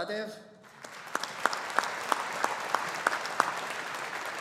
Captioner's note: audience applauding